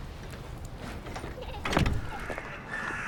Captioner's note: door opening; door closing